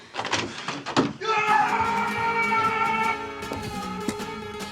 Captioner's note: gasps; door rattles; Isaac yelling; dramatic music